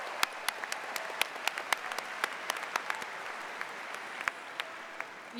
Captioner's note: cheers and applause